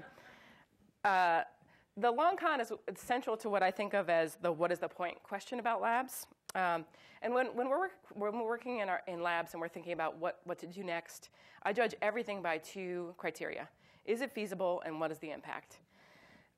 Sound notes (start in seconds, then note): none